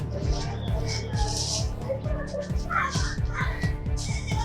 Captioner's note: crying